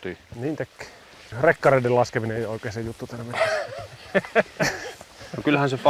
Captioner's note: laughing